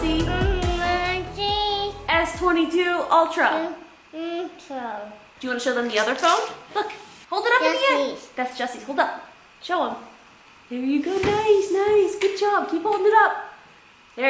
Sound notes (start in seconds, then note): 0.2 babbling; 4.1 babbling